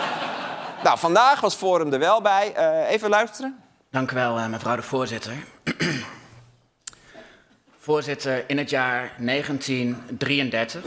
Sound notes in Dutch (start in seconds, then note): 5.6 schraapt zijn keel